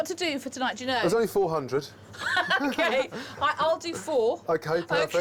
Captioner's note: laughing